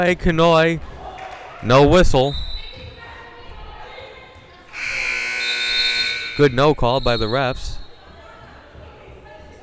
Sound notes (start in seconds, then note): 4.7 loud buzzer blaring